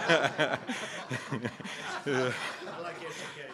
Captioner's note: laughter